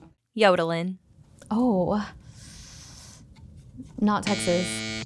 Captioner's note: inhales; klaxon buzzes